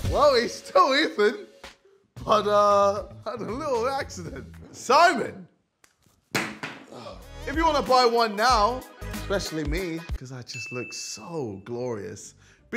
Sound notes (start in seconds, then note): 6.4 Simon Youtooz thuds